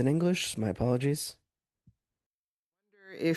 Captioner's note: speaking French